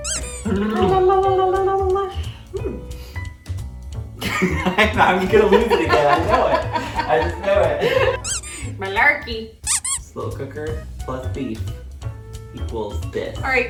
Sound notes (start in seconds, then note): 4.2 cracks up again